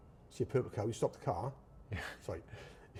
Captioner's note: chuckles